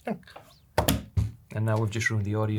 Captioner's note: drums on desk